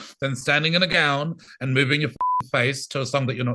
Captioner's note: beep